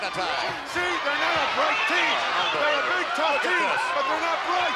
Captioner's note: commentator shouts